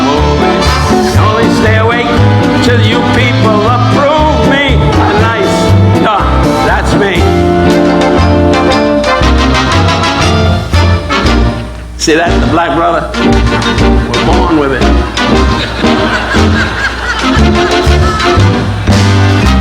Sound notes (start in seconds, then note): 7.4 music slows; 14.7 audience laughing